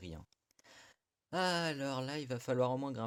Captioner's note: inhales